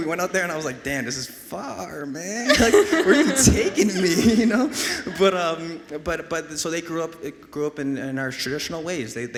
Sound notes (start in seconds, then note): 2.4 and audience laughs